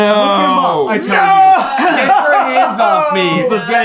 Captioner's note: laughing